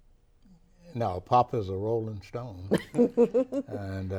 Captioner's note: laughs